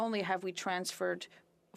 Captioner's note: speaking French